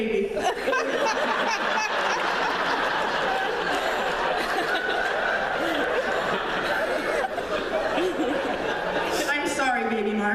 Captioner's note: laughter